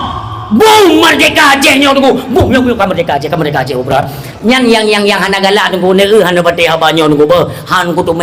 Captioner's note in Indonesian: berteriak